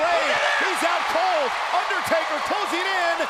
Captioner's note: audience roaring